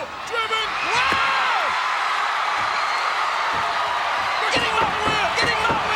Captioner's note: audience cheers